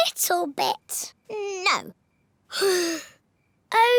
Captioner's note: sighs